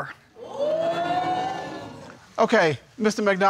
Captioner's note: crowd woots